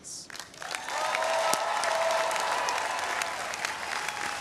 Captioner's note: audience cheering